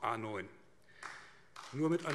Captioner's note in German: Beifall AfD